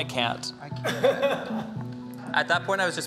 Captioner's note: chuckling